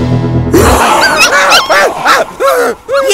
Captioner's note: Veer grunts